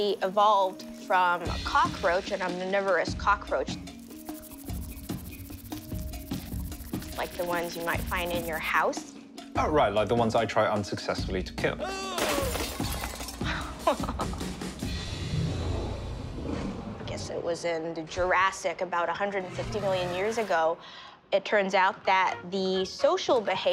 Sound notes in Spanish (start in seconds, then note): 12.1 sonido de vidrio rompiéndose; 13.4 risas; 15.1 sonidos de dinosaurios